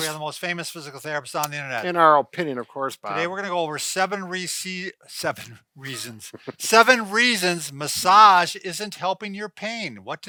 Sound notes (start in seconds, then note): 5.8 laughing